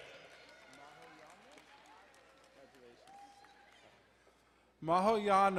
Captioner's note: crowd cheering and applauding